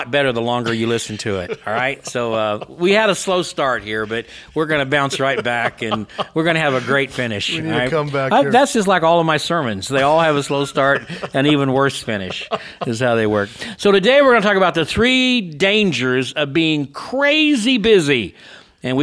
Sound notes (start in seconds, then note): 2.1 laughs; 8.4 laughs